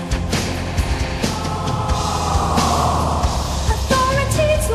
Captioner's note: choir sigh